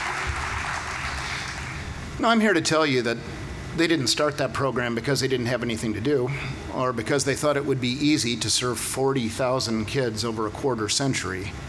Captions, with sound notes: (Applause) Now I'm here to tell you that they didn't start that program because they didn't have anything to do or they thought it would be easy to serve 40,000 kids over a quarter-century.